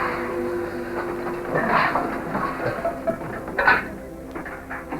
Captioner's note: clatter